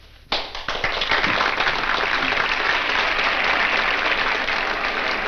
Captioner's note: audience applauds